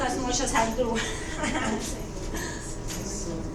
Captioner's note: laughs